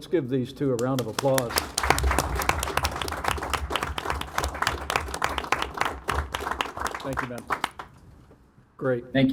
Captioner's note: applause